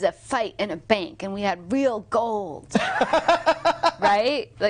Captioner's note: laughing